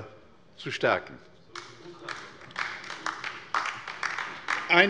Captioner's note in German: Beifall bei der LINKEN